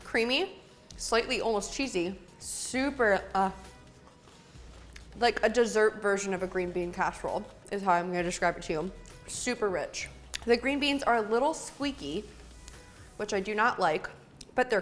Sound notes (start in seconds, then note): none